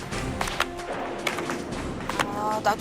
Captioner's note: you can hear the whip's sound, mimicking thunder and lightning